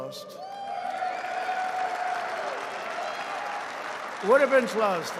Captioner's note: applause